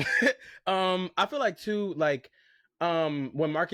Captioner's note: laughs